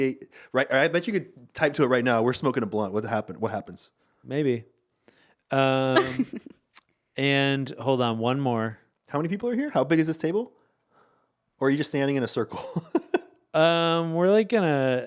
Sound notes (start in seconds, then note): 5.8 laughing; 12.5 laughing